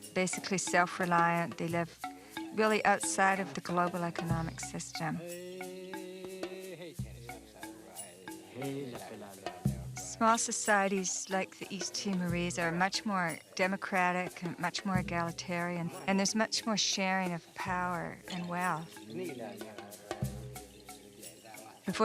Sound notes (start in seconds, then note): 5.8 gentle music; 5.8 man humming; 19.3 singing in foreign language